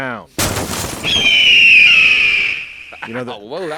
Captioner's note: eagle sound